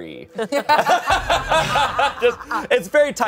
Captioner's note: everyone laughs